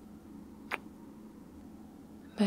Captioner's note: kiss